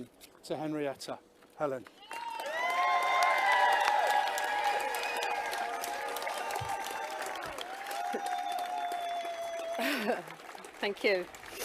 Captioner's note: clapping and cheering